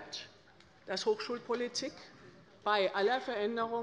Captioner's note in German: none